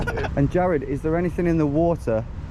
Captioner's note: laugh